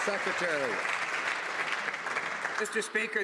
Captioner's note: some Applause